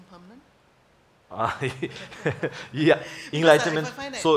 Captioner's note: laughs